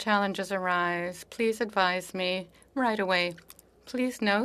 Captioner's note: speaking French